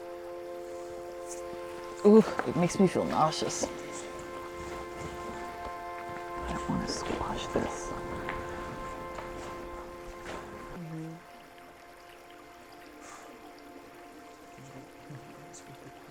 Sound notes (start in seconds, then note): 12.6 group mumbling while walks around